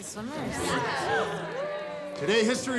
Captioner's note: class cheers